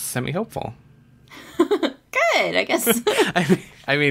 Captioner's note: laughs